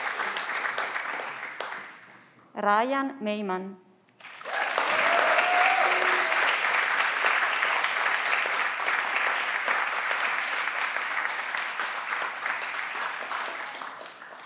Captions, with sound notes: Ryan Maiman. (everyone claps)